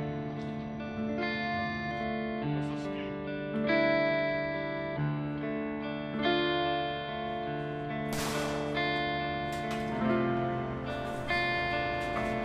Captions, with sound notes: Where is King? (gunshot)